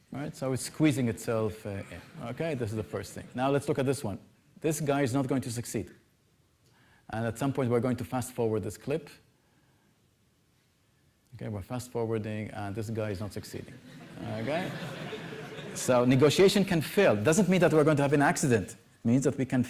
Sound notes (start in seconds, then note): 13.7 laughter